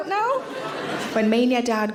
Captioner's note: audience laughing